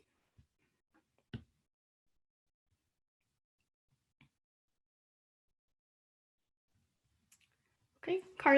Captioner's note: silence